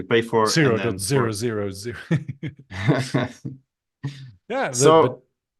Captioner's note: chuckling